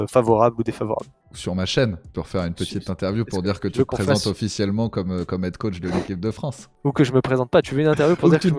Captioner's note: laughs